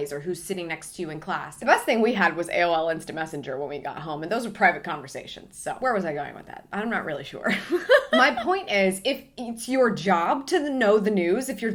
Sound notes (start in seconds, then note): 7.6 laughs